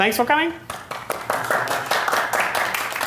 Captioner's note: applause